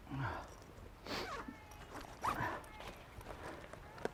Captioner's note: Mercer breathes sharply; Mercer sniffs